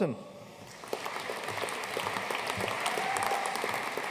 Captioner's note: audience applauding; audience cheering and applauding